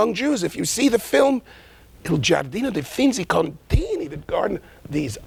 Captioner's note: speaking in a foreign language